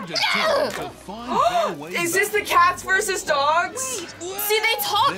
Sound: gasps

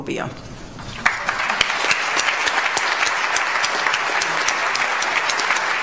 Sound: audience applauds

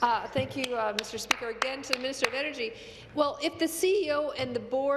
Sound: applause

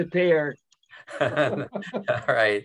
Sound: laughing

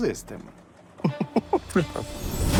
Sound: chuckles

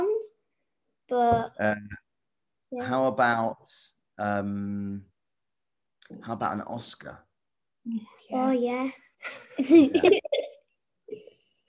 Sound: giggles

